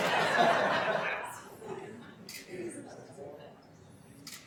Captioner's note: attendees laughing